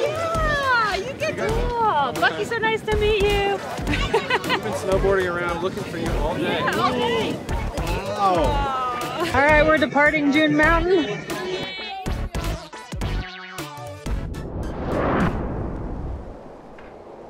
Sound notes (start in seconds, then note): 3.7 laughs; 11.4 upbeat music